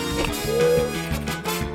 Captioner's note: blubbers lips; gasps; keys clack